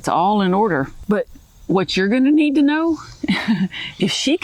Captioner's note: laughs